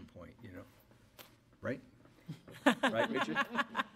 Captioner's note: laughter